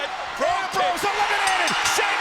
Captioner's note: applause